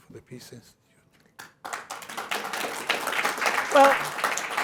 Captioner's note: applause